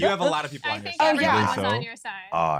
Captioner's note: laughter